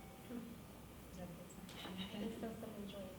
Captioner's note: phone chiming